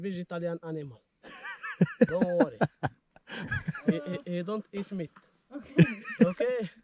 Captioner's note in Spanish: La risa